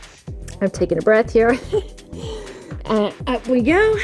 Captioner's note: laughs